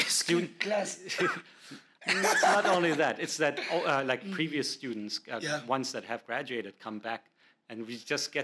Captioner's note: coff coff